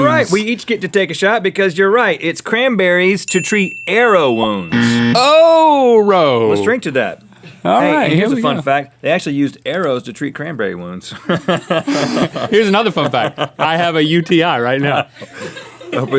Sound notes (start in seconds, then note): 3.2 ding and buzz; 11.2 laughs